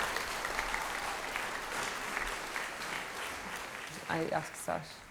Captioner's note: applause